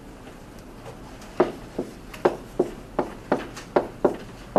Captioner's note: marker thudding